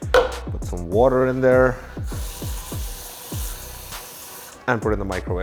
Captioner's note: tap water running